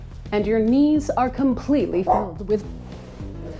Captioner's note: dog bark